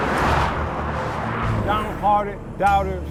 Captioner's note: vehicles whooshing